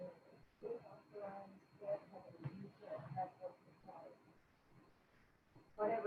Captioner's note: speaking faintly